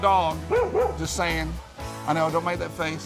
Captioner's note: dog barks